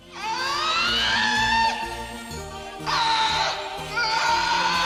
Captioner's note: screams